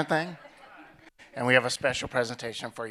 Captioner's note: audience chuckling